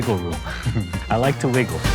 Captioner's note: laughs